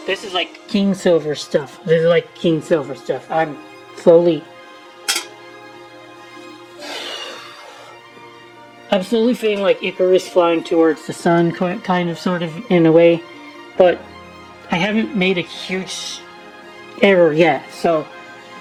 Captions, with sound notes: This is like king silver stuff. This is like king silver stuff. I'm slowly... (sighing)... I'm slowly feeling like Icarus flying towards the sun kind of sort of in a way, but I haven't made a huge error yet. So...